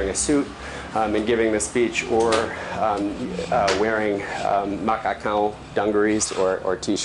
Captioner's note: non-english